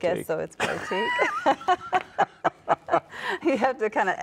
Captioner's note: both laugh